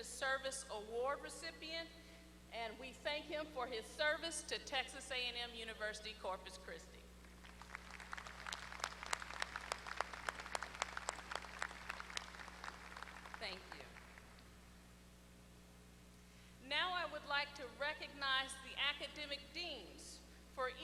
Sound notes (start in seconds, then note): 11.3 applause